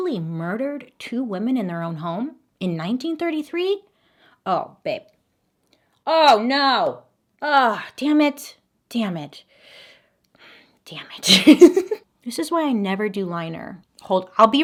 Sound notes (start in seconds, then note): 11.2 laughs